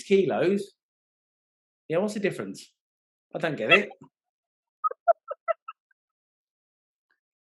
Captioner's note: laughing